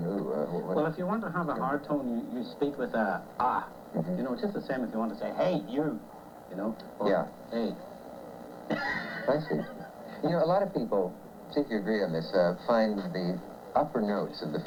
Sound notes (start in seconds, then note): 7.1 laughs